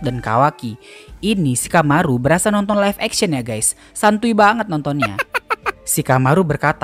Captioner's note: laughs